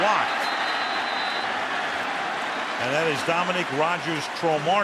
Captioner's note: whistle